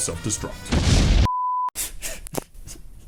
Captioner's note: comical explosion